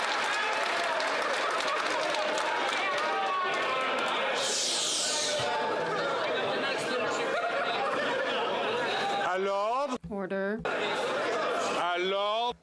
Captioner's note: some Applause